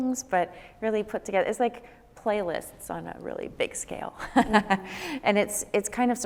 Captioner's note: laughs